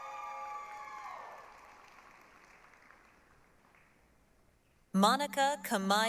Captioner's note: applause, cheering